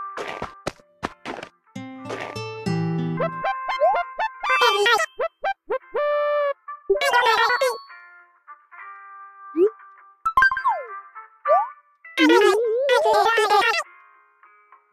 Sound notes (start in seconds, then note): 1.8 dog music; 10.3 confirmation sound